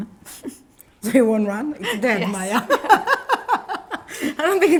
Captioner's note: laughs